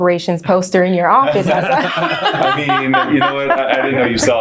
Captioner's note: laughing